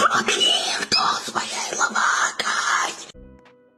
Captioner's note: random ghastly noises